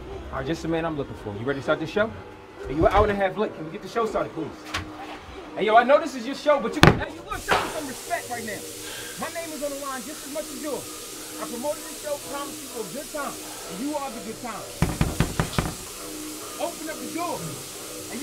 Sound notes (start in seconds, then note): 14.8 knocks on door